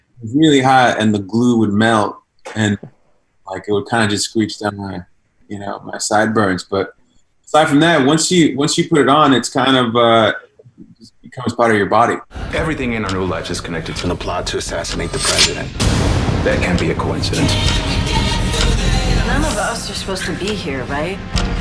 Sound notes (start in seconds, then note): 15.6 gun fires; 21.3 clock ticking